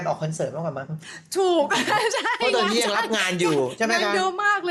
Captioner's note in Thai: เสียงหัวเราะ